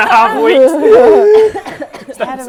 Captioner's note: gasp